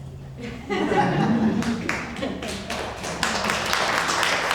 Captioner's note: audience clapping